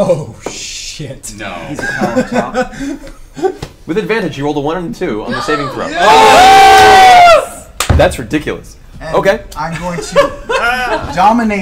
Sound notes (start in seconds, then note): 5.2 all cheer